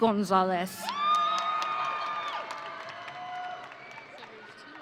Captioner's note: audience cheering